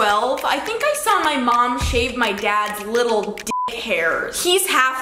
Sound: beep

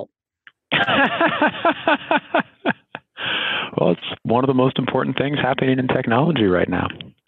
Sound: laughs

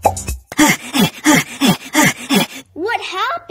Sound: gaspin

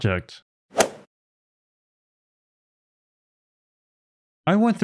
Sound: golf ball hit sound effect

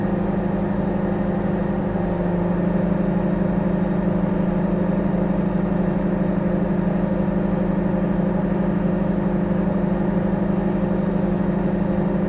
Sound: microwave humming

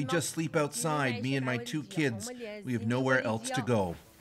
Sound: speaking alternate language

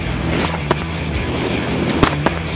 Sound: gun shooting

